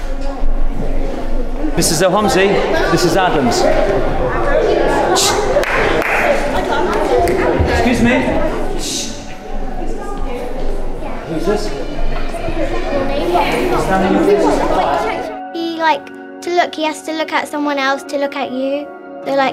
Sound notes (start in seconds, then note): 5.6 claps; 12.7 overlapping chattering